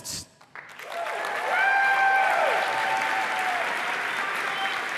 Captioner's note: applause